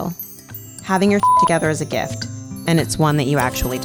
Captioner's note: beep